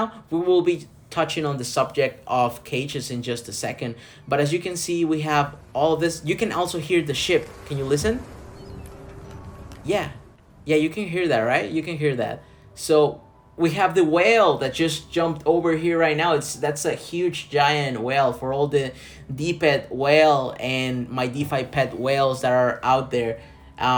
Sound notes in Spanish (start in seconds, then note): 8.7 sonido del mar